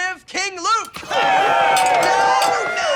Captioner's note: cheering